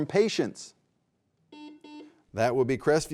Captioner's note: buzzer buzzing